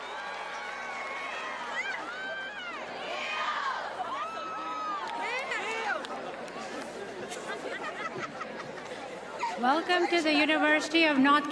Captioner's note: cheers and applause